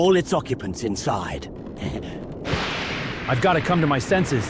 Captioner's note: thunder sounds